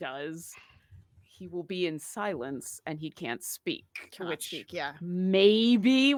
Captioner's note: murmurs